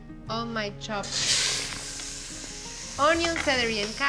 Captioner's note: sizzling